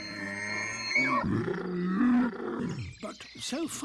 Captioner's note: braying; growling